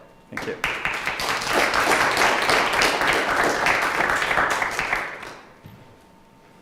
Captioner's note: clapping